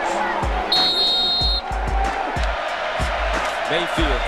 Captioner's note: whistles